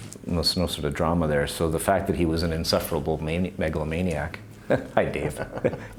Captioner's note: laughs